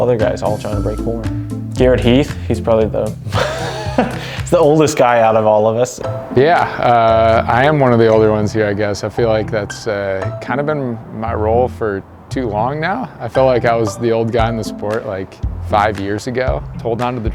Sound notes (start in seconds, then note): 3.2 laughs